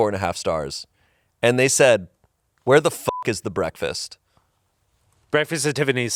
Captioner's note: beep